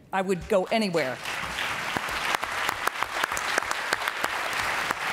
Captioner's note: applause